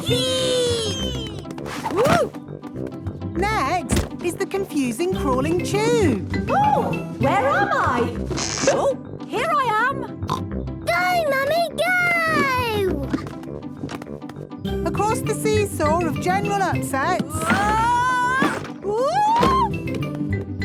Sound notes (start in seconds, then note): 3.8 thumps; 8.3 pops; 16.9 wood teetering